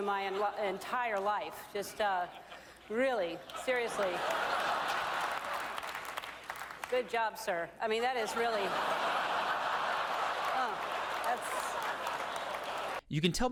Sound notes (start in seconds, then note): 4.0 audience applauds; 8.2 audience laughs